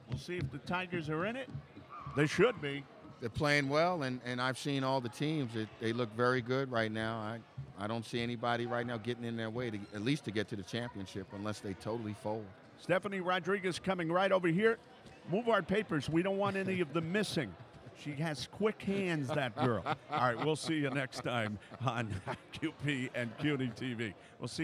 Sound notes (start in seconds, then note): 19.2 laughs